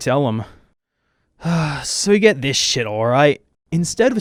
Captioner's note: sighs